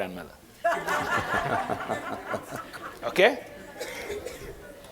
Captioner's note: laughing